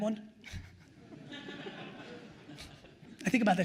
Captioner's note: attendees laughing